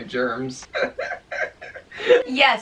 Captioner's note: both laughing